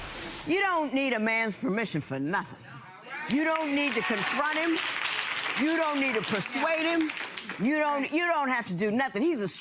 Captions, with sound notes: - You don't need a man's permission for nothing. You don't need to confront him. (audience applauds) You don't need to persuade him. You don't, you don't have to do nothing.